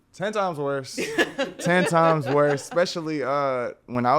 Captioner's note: podcasters laughing